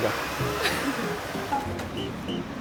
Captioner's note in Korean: 웃음